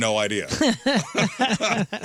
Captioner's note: laughing